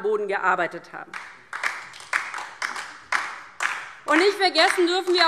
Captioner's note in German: Beifall DIE LINKE